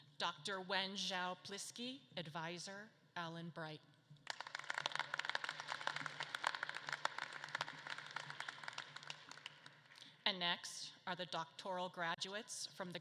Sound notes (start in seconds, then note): 4.2 audience claps